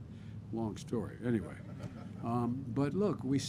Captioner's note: laughter